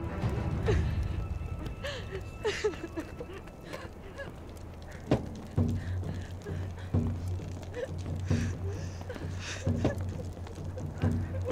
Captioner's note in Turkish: Ağlama Sesleri